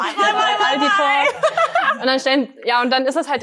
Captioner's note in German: Gelächter